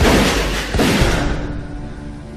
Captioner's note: gun shot